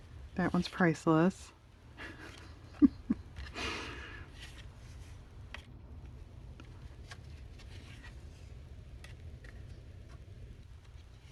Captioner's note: laughs